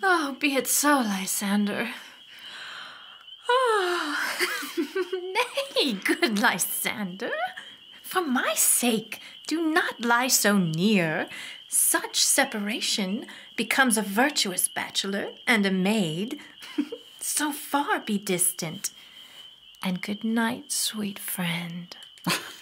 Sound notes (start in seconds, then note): 3.5 yawning sound and laugh